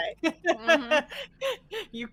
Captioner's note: laughing; laughs